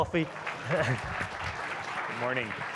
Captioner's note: audience clapping